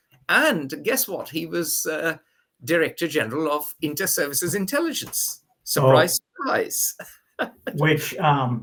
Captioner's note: laughs